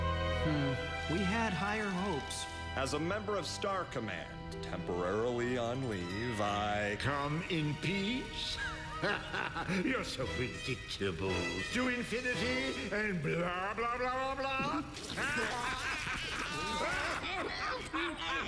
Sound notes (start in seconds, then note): 8.3 laughs; 15.0 all laugh